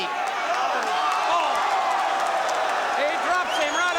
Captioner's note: crowd cheering